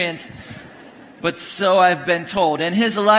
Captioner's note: congregation laughing